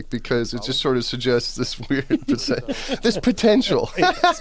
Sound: laughs

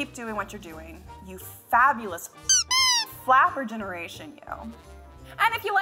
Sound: squeak

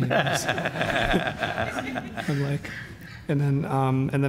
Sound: audience laughs

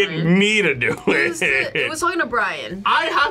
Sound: laughs

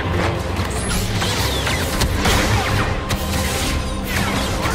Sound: electronic zapping

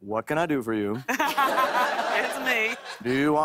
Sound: laughter

